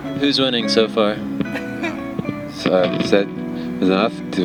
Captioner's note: laughs